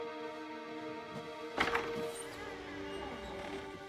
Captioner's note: door creaks open